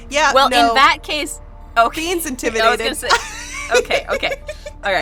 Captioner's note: laughs